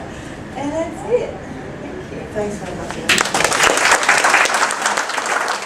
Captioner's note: applause